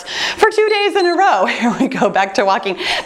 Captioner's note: timer beeps